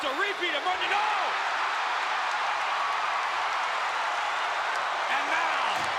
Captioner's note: applause